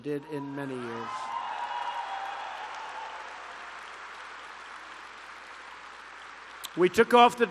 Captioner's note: applause